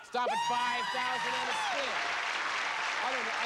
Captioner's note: cheers and applause